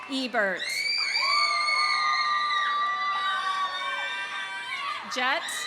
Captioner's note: audience cheering; audience applauding